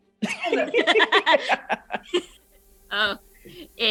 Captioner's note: laughter